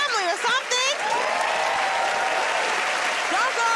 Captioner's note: cheers and applause